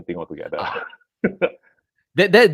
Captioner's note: laughs